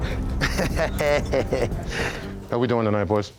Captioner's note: chuckles